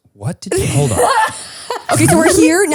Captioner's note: laughs